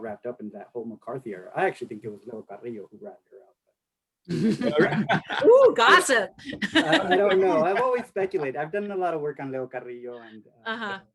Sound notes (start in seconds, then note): 6.6 laughs